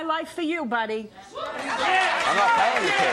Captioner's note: applause